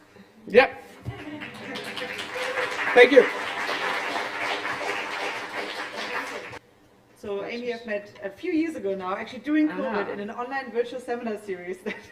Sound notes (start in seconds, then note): 3.6 applause